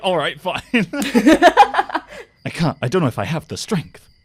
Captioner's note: laughter